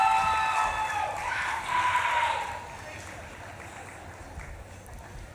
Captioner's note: audience claps and cheers; audience member screams